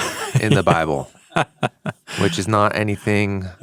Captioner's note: chuckles